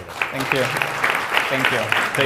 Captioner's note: audience clapping